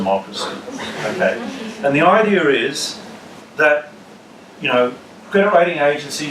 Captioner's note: laugh